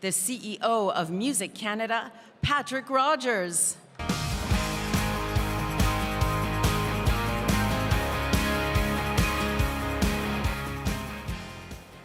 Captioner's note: speaking french